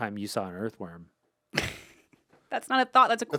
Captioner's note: laughs